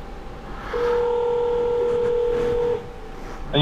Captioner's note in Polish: dzwoni